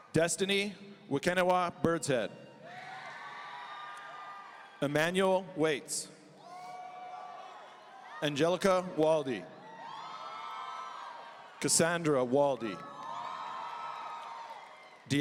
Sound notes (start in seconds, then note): 2.6 audience cheering; 6.4 audience cheering